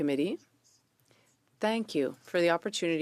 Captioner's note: speaking French